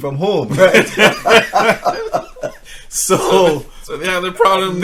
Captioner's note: both laughing